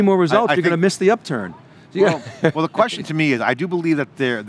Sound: laughs

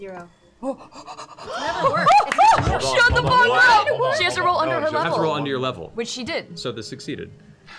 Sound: excited gasping

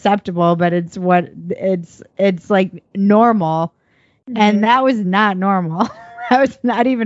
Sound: laughs

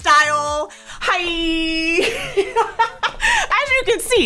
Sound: laughs

